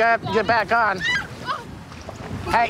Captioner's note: screaming